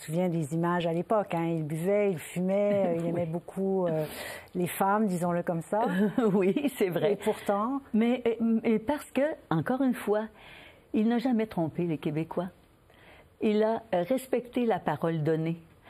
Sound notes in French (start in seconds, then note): 1.4 rires